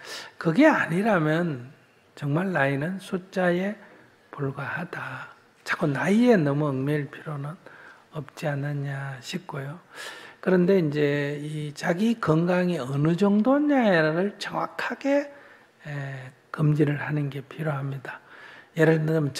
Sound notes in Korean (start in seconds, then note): none